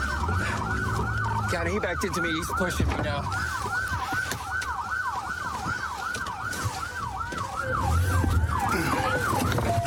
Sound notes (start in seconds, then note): 3.4 sirens blaring